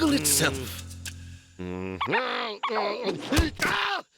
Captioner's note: grunting